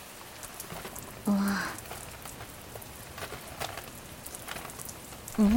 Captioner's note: rustle Rustle